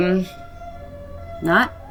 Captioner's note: police siren wailing